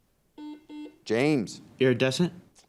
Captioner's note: buzzer dings